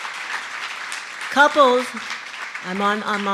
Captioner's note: cheering & Applause